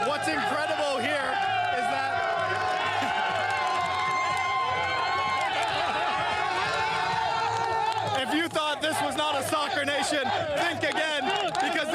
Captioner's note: applause